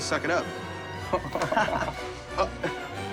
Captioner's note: men laugh; playful orchestral music